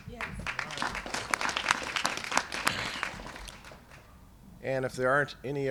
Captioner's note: applause